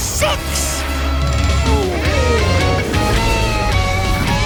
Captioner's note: growling